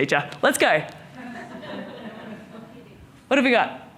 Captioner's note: audience laughing